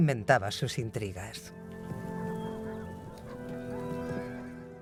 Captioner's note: hooves clomping